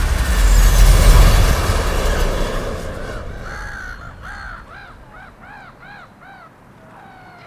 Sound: airplane engine roaring; birds squawking

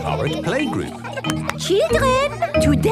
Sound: clapping

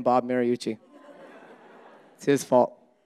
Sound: audience laughing

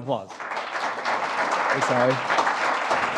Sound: applause

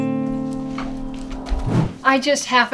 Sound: whoosh SFX

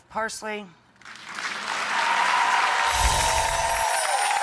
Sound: applause

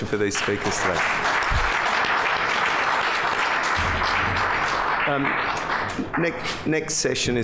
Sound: applause

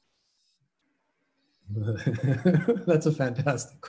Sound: chuckling

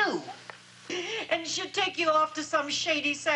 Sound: sobs

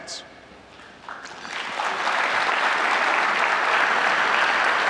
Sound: audience applauding

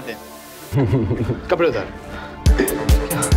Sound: giggle

